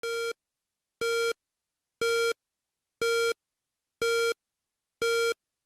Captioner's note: beep